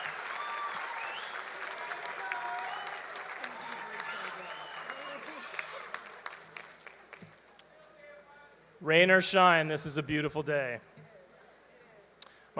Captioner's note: applause